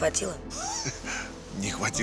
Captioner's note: chuckles